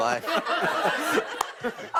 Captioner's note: laughter